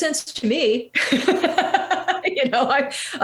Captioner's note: laughing